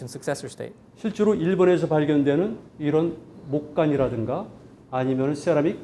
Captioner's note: speaking in Korean